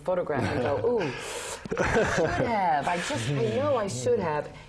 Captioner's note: laugh